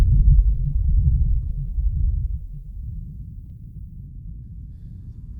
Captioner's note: engine silencing; heavy breathing